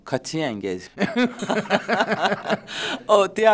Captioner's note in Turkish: Gülüyorlar